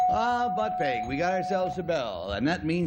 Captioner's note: bell